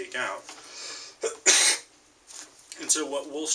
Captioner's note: cough